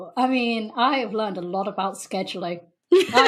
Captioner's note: laughs